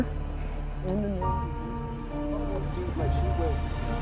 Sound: murmurs; dramatic music

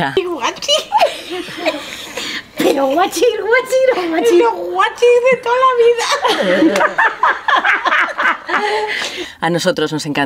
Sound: my grand-mother speaking english

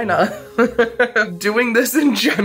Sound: laughs

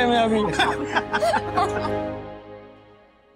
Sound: laughing

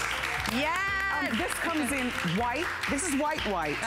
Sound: applause

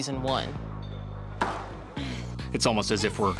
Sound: exhales

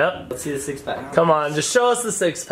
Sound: male Voice

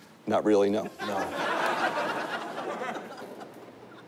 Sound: laughter

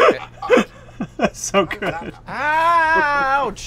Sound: laughing

